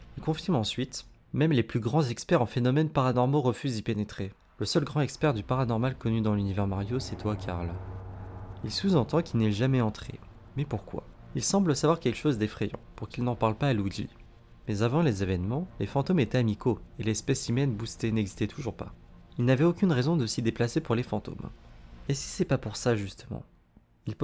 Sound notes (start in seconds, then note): 7.6 in french